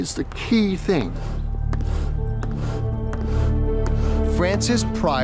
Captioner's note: bellow blowing